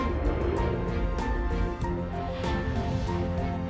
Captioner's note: whooshes